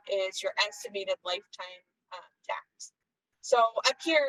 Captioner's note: none